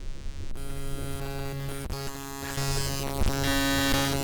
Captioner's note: static buzzing